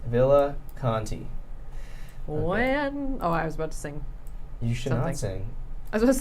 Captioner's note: none